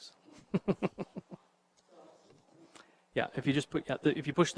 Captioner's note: chuckles